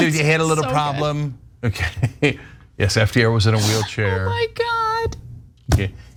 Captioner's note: laugh